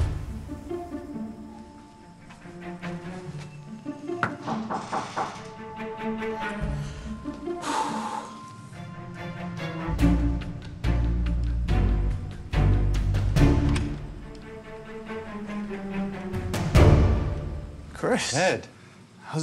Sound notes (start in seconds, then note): 4.2 knock at door; 7.4 exhales; 13.6 latch clicks